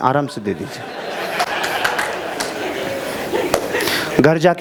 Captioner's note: rounds applause